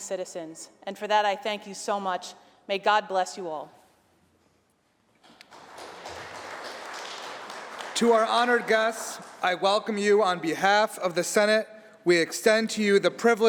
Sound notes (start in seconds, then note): 5.3 applause